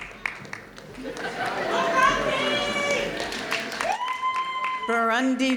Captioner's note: audience laughing